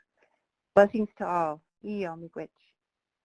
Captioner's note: speaking foreign language